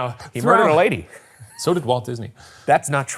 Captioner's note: chuckling